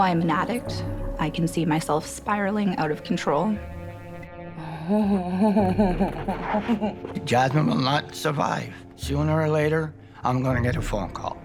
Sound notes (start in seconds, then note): 5.4 laughter